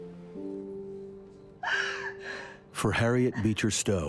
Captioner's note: crying